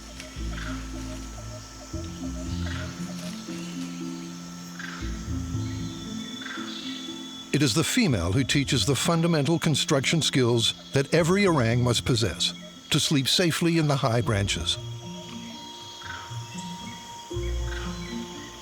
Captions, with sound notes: [melodious music] [monkey chattering] It is the female who teaches the fundamental construction skills that every orang must possess to sleep safely in the high branches. [monkey chattering]